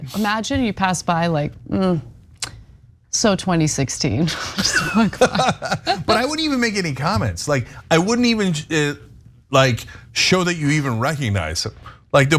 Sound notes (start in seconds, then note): 4.3 laugh